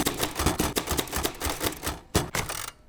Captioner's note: keys typing